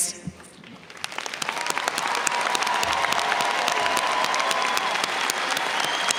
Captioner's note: audience cheers and applauds